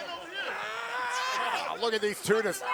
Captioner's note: wrestlers snarl